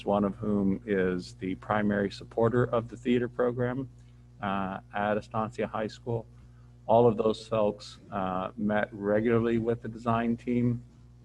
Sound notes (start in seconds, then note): none